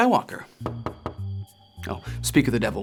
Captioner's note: Luke knocking